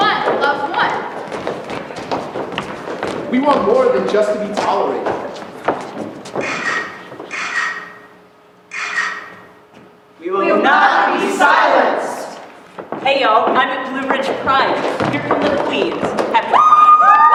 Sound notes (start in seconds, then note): 6.6 camera shutter sounds